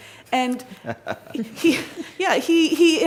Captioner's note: everyone laughs